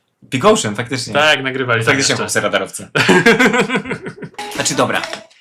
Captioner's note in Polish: śmiech